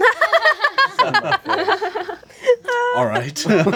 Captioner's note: laughing